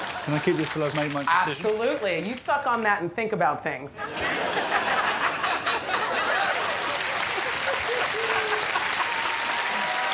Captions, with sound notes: -Of course. -I'm gonna keep this until I've made my decision? Absolutely. You suck on that and think about things. [audience laughs] [applause]